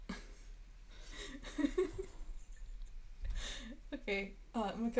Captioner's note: laughing